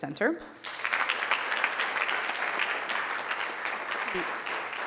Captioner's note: audience applauding